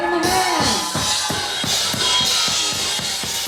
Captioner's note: crowd cheers